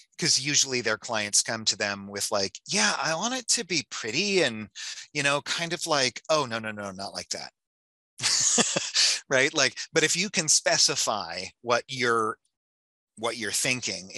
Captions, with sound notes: 'Cause usually clients come to them with like, "Yeah, I want it to be pretty and, you know, kind of like... Oh, no, no, no, not like that." (laughs) Right? But if you can specify what you're thinking